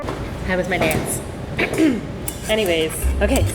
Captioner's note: clears throat